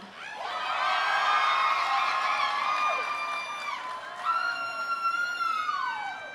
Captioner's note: audience cheering; audience applauding